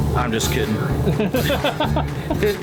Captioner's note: laughing